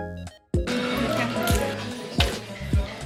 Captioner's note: haha